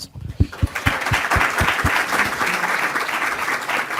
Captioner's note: applause